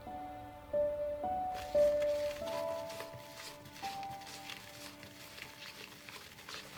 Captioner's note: sentimental music; spatula stirring